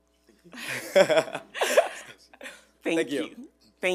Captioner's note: laughs